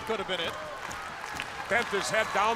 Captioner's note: crowd cheering